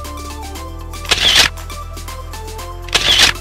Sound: camera shutters; camera shutters

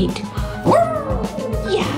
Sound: dog howling

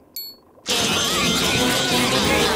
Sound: anchovies screaming

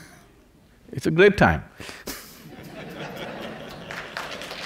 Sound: laughter/Applause

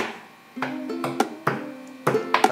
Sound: humming

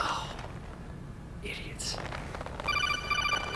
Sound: sigh; codec sound

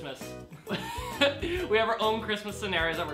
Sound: laughs

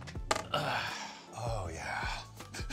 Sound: sighs

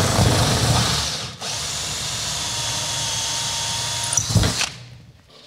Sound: drilling

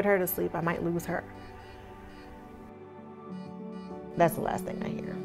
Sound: medical machines beeping

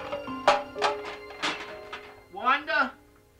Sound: plastic bouncing on counter

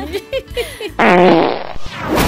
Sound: fart

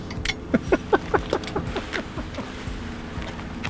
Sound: laughing

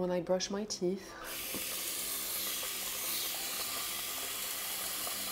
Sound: water running

